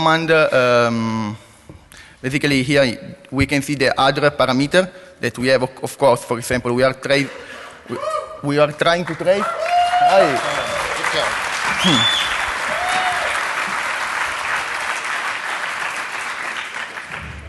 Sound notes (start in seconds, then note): 9.2 cheering